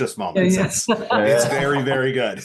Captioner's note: laughs